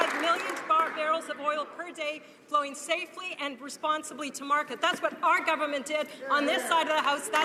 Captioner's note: some Applause